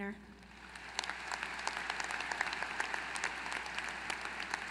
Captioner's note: applause